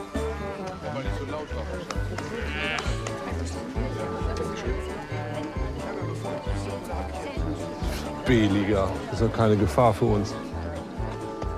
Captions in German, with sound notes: Sei mal nicht so laut auf der Straße. (verächtlich:) B-Liga. Die sind keine Gefahr für uns.